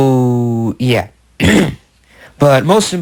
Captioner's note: clears his throat